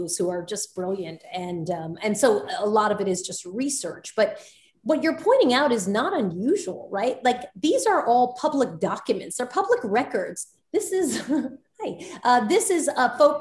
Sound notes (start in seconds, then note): 11.0 Soledad laughs